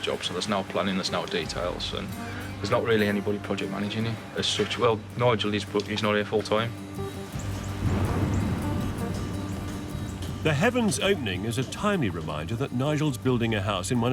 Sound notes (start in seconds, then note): 6.5 upbeat music; 7.5 thunderstorm cracking